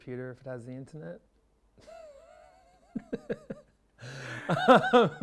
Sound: laughs

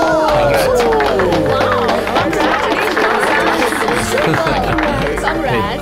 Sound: applauding

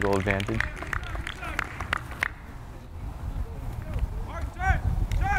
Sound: players talking and yelling

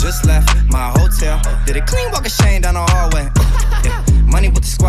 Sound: ha-ha-ha-ha

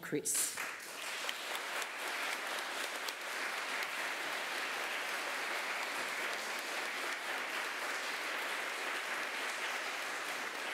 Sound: applause

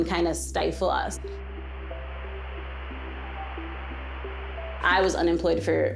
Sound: static noise

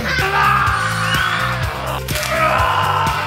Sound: screams

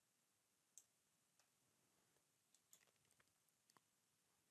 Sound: mouse clicking

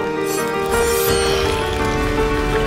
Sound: chime

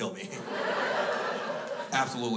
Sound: crowd laughs

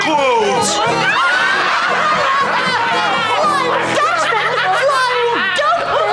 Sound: laughing

